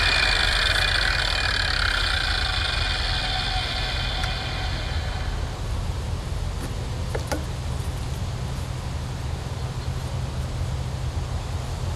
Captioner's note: harvester running